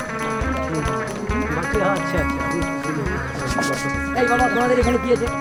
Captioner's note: chatter